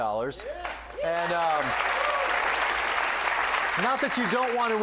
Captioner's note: cheers and applause